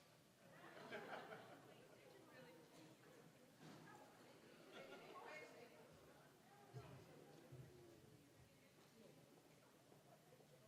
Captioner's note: general chatter